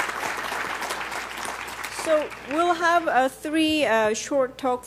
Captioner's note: applause